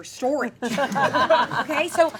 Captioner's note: audience laughing